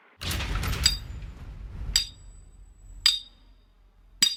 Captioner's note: hammering